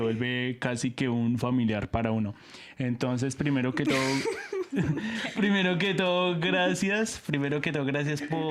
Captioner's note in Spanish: risas